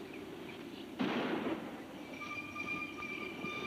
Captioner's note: gun bangs; tense music